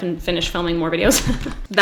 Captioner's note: giggles